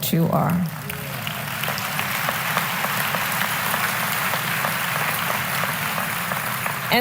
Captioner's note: applause